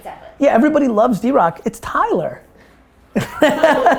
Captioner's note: laughs